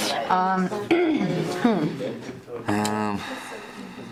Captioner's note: clearing throat